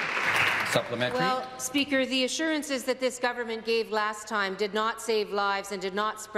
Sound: applause

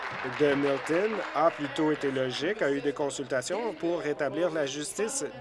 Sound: applause

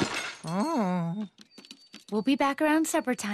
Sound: crash; moans

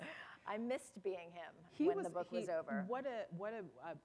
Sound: laughter

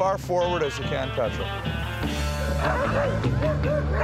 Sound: dogs barking

